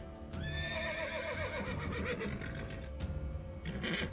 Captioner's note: horse whinnies